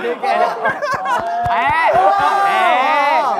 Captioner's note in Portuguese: Ri muito